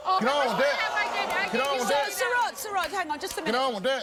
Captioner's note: audience groans